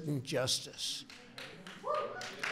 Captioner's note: applause